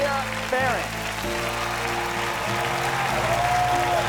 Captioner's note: audience continues cheering and applauding; orchestral music